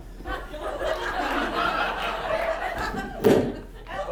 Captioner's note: audience laughs